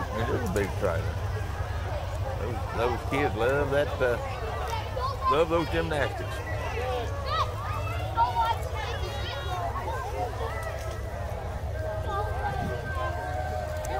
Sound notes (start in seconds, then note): 8.2 revving and chattering continue